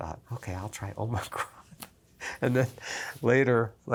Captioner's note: laughs